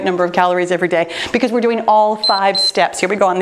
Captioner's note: timer beeps